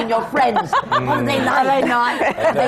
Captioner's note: laughter